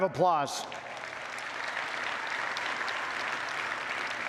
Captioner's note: audience applauds